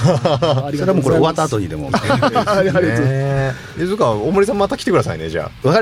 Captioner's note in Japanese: 笑い